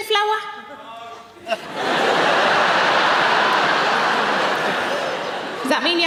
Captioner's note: audience laughing